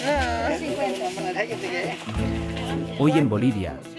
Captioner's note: villager speaking in foreign language; speaking in foreign language